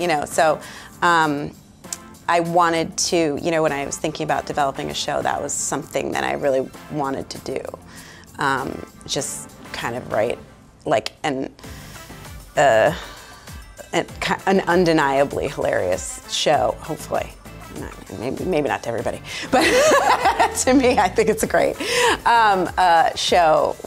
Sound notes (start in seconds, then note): 19.5 all laughing